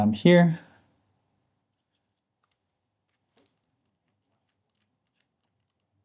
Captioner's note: silence